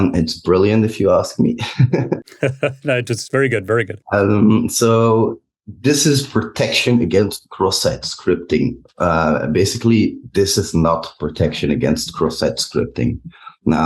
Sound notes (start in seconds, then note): 2.2 chuckles